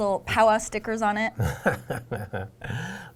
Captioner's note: laughing